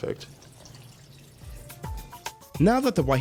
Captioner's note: liquid splashes